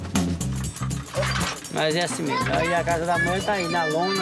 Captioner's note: Portuguese spoken audio